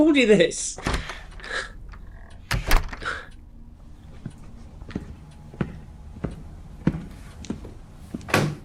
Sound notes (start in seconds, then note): 0.7 door creaks; 4.7 footsteps thudding